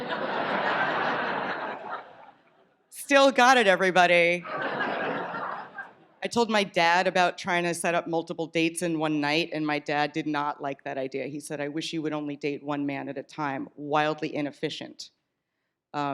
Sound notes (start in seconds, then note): 0.0 audience laughs; 4.4 laughter